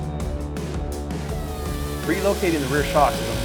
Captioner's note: power tool whirring